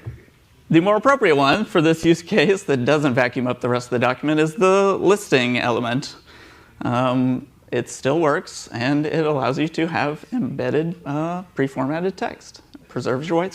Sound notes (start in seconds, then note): none